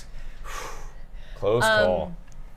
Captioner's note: exhales loudly